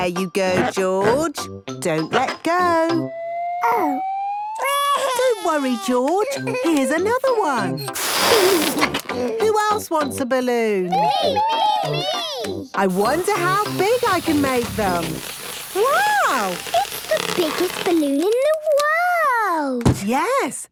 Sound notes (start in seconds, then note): 0.0 George snorts; 4.6 crying; 9.0 George giggles